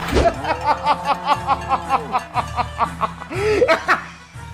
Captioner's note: laughs in disbelief